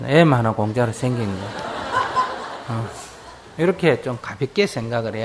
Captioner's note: audience laughs